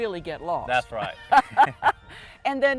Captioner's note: laughter